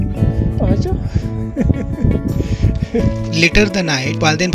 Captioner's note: laughing